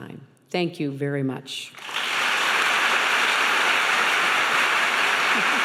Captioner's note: applauding